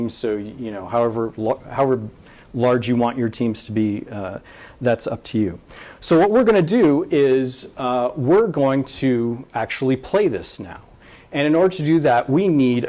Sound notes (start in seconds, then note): none